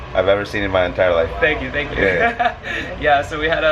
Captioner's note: laughs